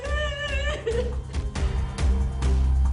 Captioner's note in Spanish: Sollozos